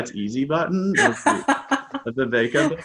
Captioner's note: laughing